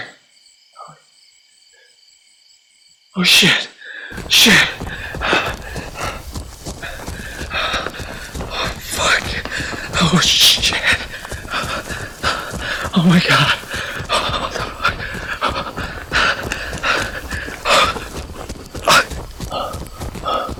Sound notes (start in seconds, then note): 1.1 wood cracking and creaking; 6.6 wood cracking and creaking; 13.3 wood cracking and rattling; 17.1 wood cracking and creaking